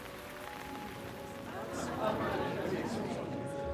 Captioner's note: chattering